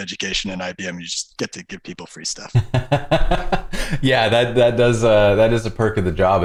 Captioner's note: laughter